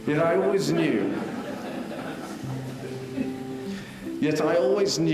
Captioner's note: audience laughing